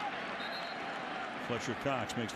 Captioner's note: whistle